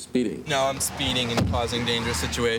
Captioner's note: van door thuds